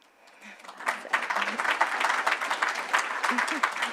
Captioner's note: clapping